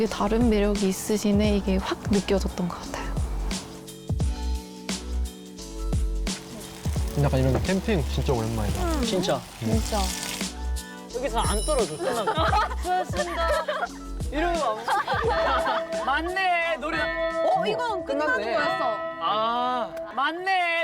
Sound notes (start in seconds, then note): 16.2 the bell tolls, signaling the end of today